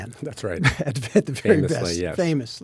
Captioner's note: chuckles